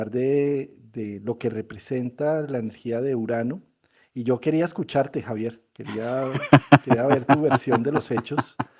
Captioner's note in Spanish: risas